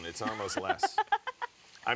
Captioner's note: laughs